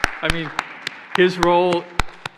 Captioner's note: applauding